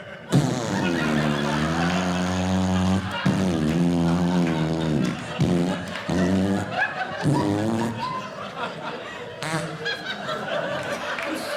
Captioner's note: audience Laughing; imitating Flatulence; audience Laughing